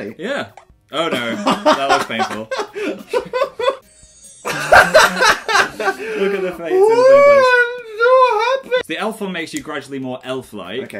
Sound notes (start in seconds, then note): 2.5 laughter